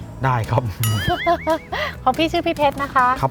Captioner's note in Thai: หัวเราะ